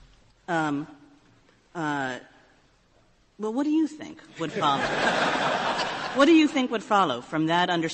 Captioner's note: laughter